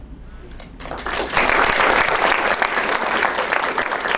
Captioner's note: audience applauds